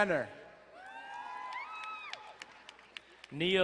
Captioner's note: crowd cheering and applauding